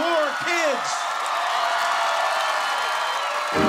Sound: cheering

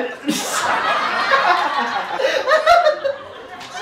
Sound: laughter from audience

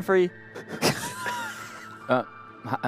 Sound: laughter

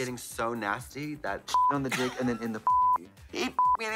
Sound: beep

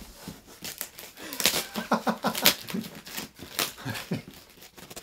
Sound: laughs

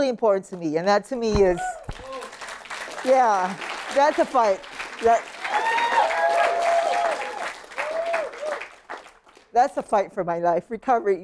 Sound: applause

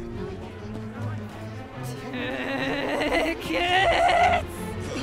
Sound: growling

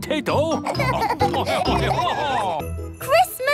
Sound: laughing

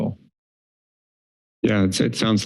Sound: pause

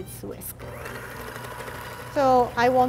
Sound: whirring

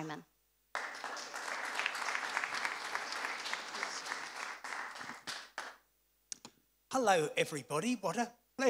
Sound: applause

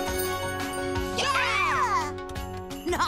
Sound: cheering

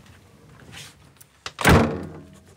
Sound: slam

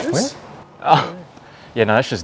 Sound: laughs

